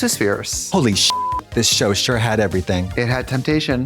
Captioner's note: beep